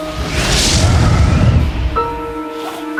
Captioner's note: breathing heavily